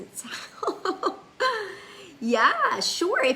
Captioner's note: laughs